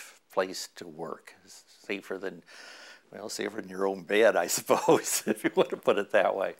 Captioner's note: chuckle